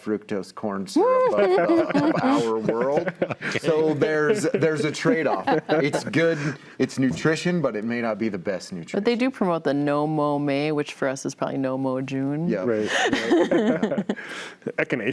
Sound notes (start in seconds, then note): 3.4 panels laughing; 7.1 panels laughing